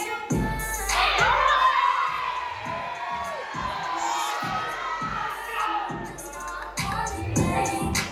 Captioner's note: applause